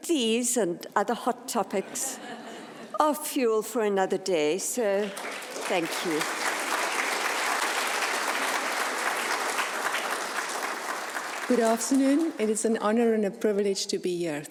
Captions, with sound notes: These and other hot topics are fuel for another day so thank you. (audience applauds) - Good afternoon, it's an honor and a privilege to be here,